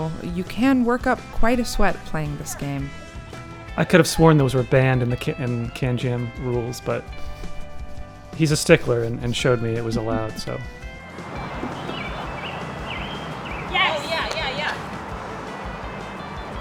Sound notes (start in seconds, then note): 11.1 birds chirping; 13.0 wind whistling